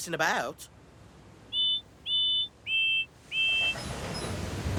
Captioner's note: whistle toots